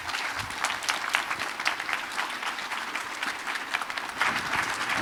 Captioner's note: applause